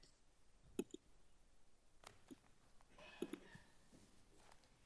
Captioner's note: mouse button clicking